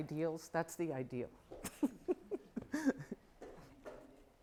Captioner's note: laughing